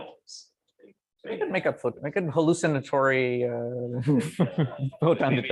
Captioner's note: laughs